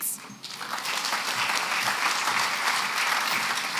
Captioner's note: applause